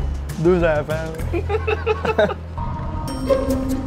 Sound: laughs

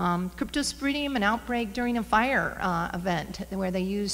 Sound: slurs words

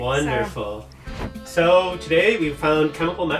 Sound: air whooshing

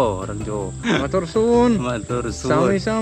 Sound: Javanese

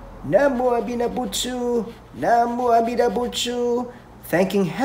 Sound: praying in Japanese

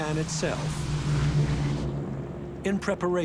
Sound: bomber engines roaring

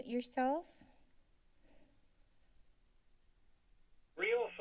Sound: silence

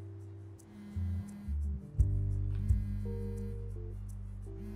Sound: cellphone buzzing

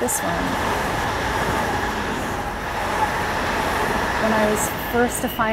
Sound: train whizzing

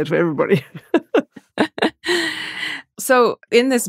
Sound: laughter

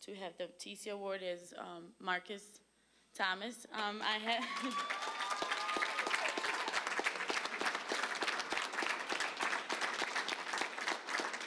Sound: applause, cheering

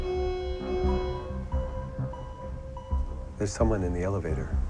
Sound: computer beeping

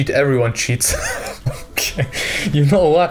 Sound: laughs

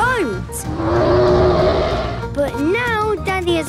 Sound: loud roar

